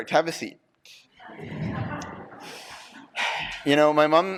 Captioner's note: laughter